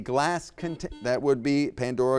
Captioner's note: buzzer beeps